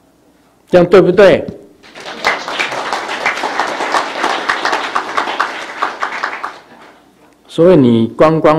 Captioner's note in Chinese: 眾鼓掌